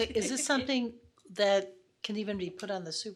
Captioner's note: laughs